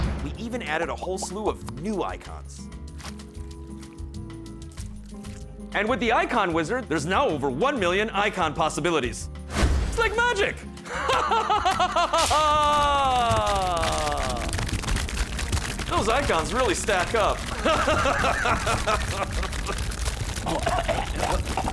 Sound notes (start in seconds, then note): 2.9 delicious slurping; 10.8 laughs; 17.6 laughs; 19.6 coughing and choking